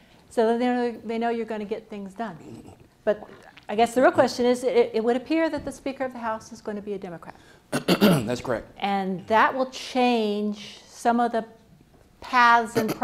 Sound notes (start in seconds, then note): 7.7 clears throat